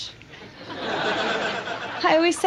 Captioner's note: audience laughs